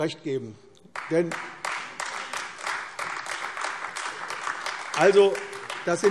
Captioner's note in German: Beifall AfD